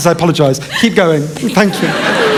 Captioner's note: laughter